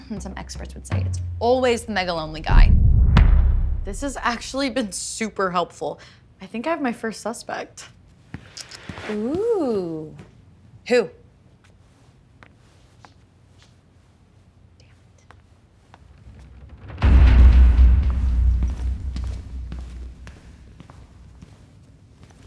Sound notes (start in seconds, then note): 15.9 footsteps; 16.9 dark atmospheric music